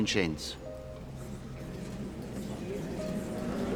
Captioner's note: crowd murmuring agitated